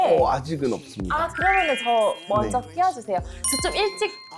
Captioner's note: Priority booking sound effect